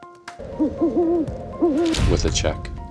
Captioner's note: owl hooting